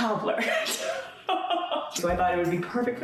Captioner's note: laughing